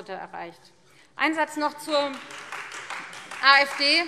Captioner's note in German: Beifall Freie Demokraten